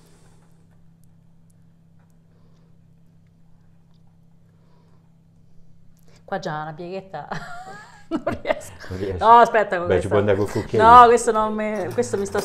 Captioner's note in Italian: Risate